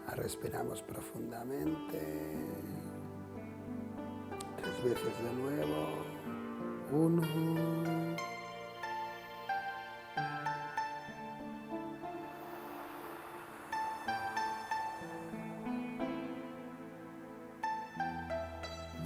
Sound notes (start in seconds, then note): 8.7 take a deep breath